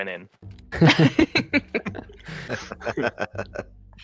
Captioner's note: laughter